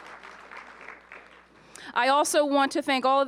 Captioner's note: applause